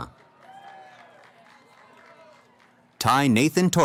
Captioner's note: cheering